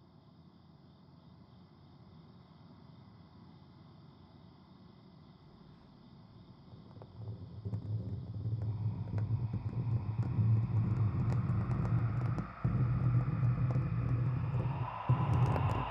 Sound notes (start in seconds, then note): 7.5 scratching; 12.6 suspenseful music